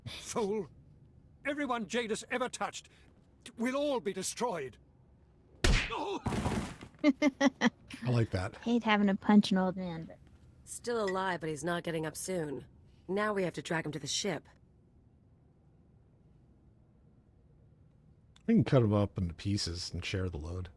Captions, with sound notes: Fool! Everyone Jadis ever touched! We'll all be destroyed! [gunshot] [laughs] I like that. He ain't having a punch in old man. I think we can cut him up into pieces and share the load.